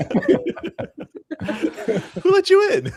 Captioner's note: laughter